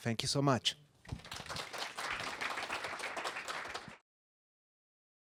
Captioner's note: audience applauding